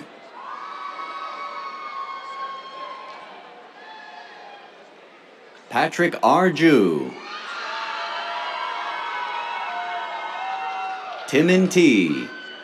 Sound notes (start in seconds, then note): 0.0 cheers; 7.0 cheers, applause; 12.4 cheers